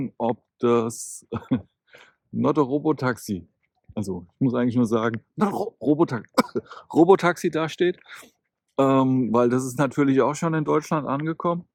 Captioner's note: cough